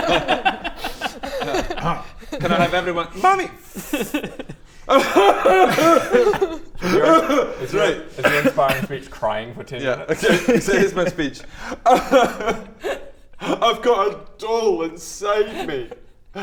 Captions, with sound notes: *unsympathetic laughter* Can I have everyone Mummy! Fff... *cries* *cries some more* right Is your inspiring speech crying for 10 minutes? Yeah okay so here's my speech *inspirational cry* I've got a doll inside me